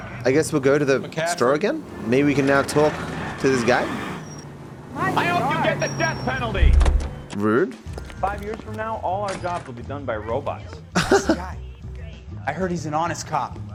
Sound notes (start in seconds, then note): 10.8 laughs